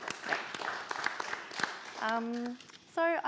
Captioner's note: participants applaud